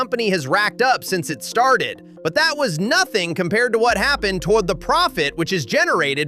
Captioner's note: thoughtful